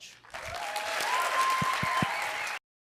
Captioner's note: applause